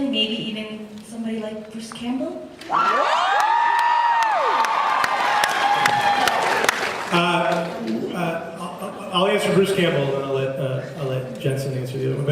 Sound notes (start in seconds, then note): 2.7 cheers, applauds